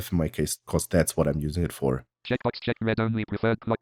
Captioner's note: automated voice